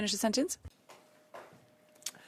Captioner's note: speaking French